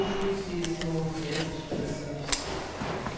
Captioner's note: bubble of voices in the background